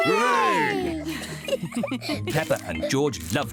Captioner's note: laughing